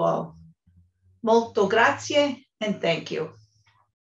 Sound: speaks in foreign language

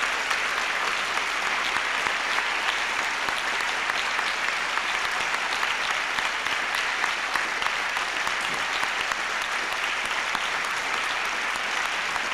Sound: applause

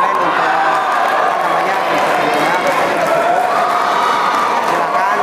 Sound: applause

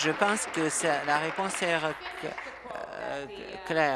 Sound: applause

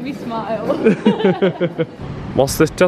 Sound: both laugh

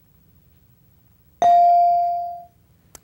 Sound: ding

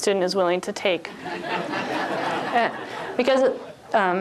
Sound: laughter

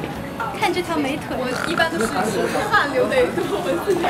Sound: making pig sounds

